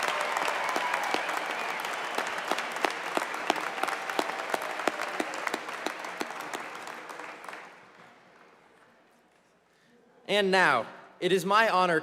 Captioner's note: cheers and applause